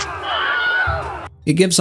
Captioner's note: large battle sounds; scream